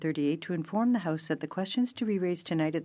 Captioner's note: speaking French